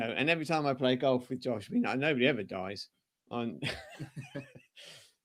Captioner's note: laughter